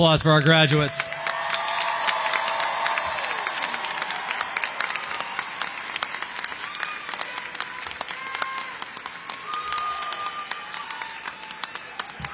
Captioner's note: applause